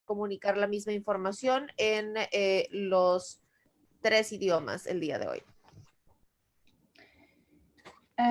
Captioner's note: spanish